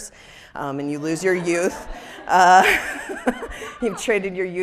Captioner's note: people laughing